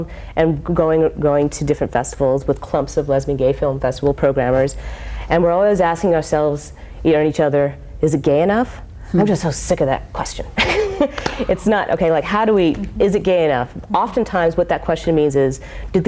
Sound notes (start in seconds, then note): 11.1 laughs